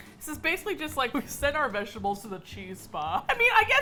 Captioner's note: laughs